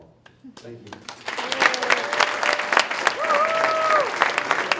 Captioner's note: applause